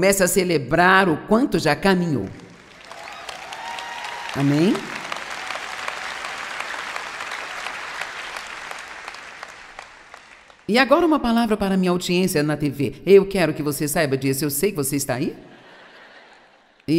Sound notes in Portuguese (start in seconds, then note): 4.4 audiência aplaude